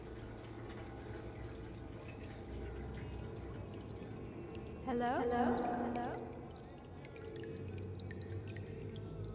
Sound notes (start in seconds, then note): 0.7 water dripping in underground prison